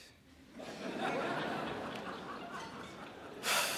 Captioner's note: crowd laughs